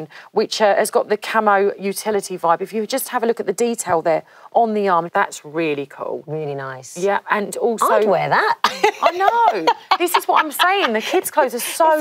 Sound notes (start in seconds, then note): 8.6 laughs